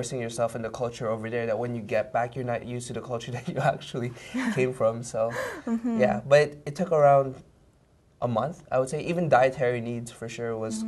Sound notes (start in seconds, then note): 4.3 both laugh